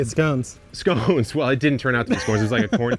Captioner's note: laughing